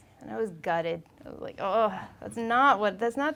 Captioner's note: groaning